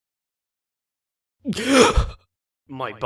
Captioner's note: gasps